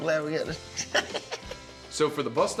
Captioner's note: laughs nervously